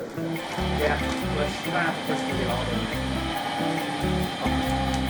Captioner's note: sounds of busy kitchen